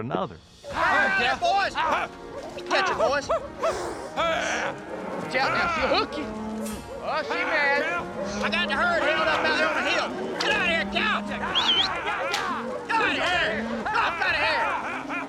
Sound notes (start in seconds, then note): 9.8 whistles